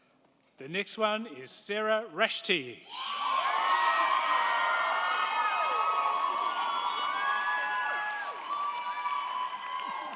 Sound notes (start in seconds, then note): 2.9 crowd cheering; 4.0 crowd clapping